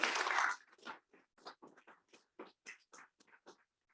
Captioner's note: applause